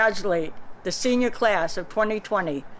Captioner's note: non-english speech